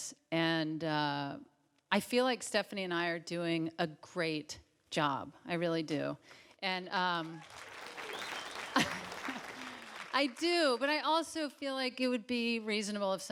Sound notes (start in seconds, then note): 7.2 audience claps; 8.6 Tig chuckles